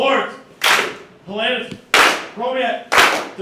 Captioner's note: team claps; team claps